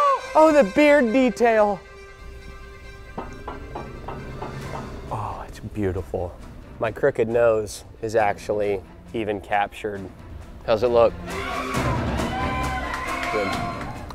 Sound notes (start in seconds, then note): 3.2 metallic knocking; 11.3 cheering